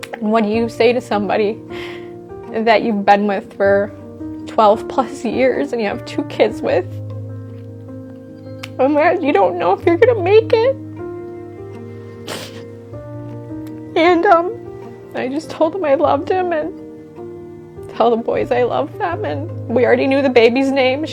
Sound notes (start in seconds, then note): 0.0 gentle music; 7.1 gentle music; 11.0 gentle music; 12.2 sobbing; 12.3 gentle music